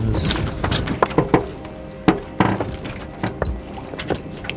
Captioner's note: creaking